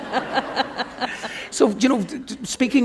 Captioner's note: laughter